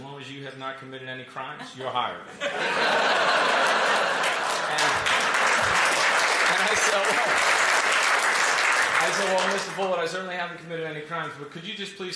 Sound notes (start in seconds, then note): 2.2 laughter; 5.2 applause